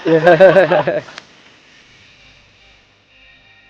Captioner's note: laughing